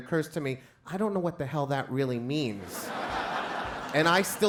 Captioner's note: crowd laughs